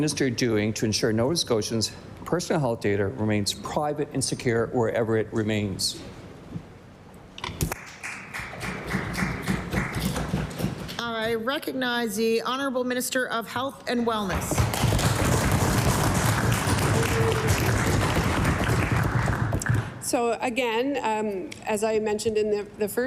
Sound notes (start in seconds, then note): 14.5 some Applause